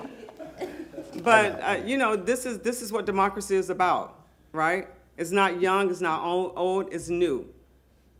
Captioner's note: laughter